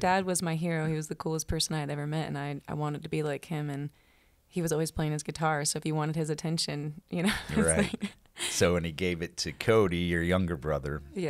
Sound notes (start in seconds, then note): 7.3 laughs